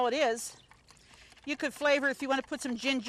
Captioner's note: whisk taps